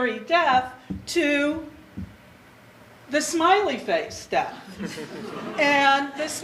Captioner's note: audience laughter